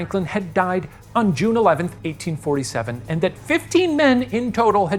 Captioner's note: none